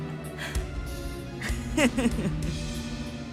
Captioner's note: laugh